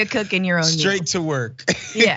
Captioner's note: laugh